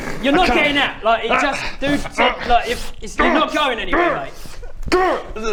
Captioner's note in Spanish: gruñido molesto